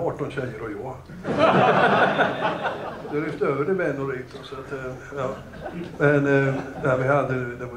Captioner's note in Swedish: Högt skratt